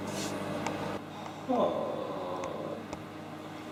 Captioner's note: groans